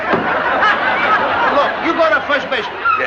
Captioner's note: laughter